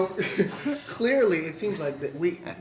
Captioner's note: laughter; laughs